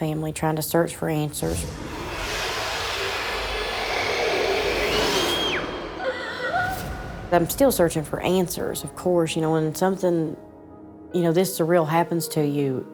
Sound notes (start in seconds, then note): 1.6 growling; 4.9 re-Enactor screaming